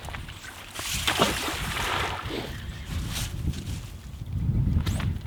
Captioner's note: water splashing